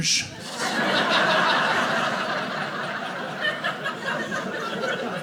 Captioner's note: audience laughing